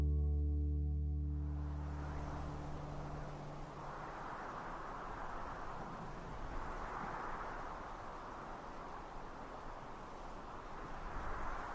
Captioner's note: wind blowing